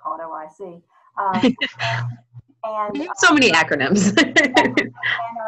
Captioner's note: laughter